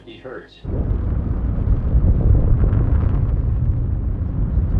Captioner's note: engine roaring